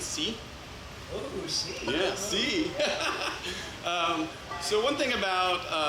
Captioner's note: laughs